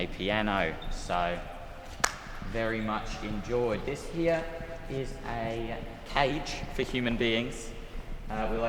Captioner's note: clap